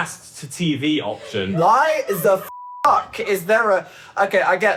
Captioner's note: beep